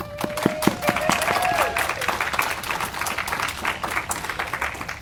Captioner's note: audience applauding